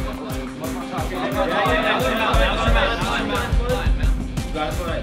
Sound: chattering

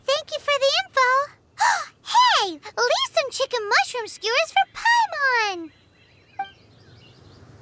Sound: gasp

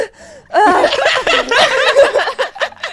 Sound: everyone laughs

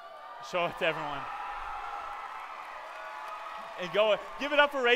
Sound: cheering

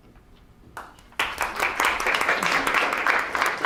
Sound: applause

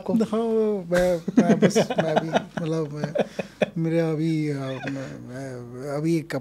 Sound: both laughing

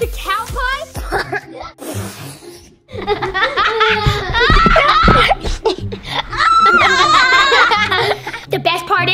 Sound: both boys laughing

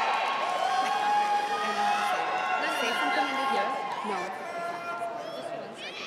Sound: chanting

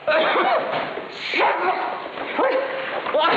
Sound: painful crying

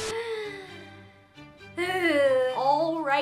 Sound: sighing

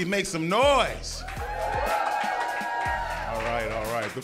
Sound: cheering

